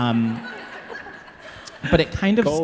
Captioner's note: audience laughing